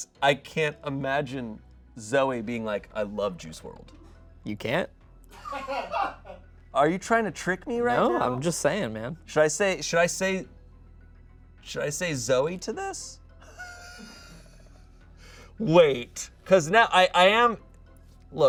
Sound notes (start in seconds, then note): 5.4 audience laughs; 13.4 laughs